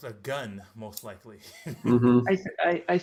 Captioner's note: laughs